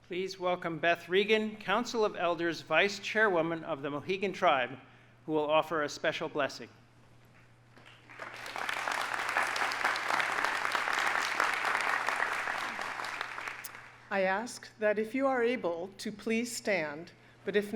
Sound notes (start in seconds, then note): 7.8 audience applauding